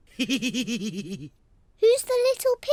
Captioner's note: laughs